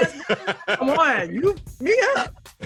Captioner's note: laughing